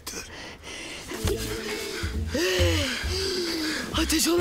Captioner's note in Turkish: Şirin nefes nefese